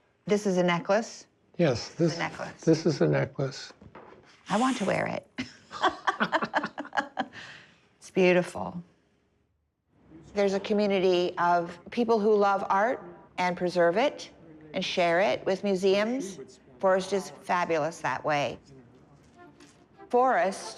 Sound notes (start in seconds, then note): 5.4 laughter